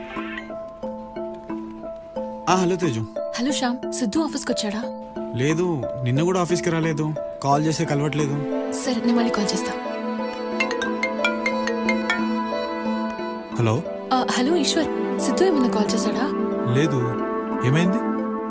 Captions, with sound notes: Hello. - Hello, did Siddhu came to office? No. I am unable to connect his calls. Fine, I will call you later. [phone ringing] Hello. - Hello Eshwar, did Siddhu called you? No. What happened?